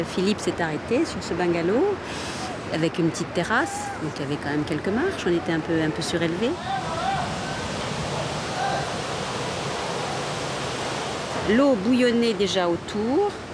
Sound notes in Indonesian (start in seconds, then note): 7.0 suara gelombang tsunami